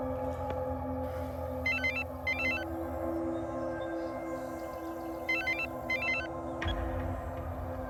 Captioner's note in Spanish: suena un celular